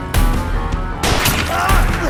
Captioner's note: gun fires; man groaning